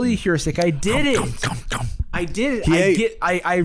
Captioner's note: chomping